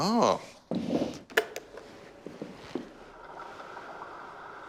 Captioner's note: click!